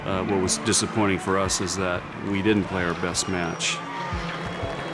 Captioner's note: cheering